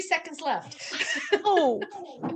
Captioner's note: all laughing